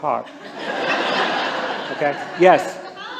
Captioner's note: laughter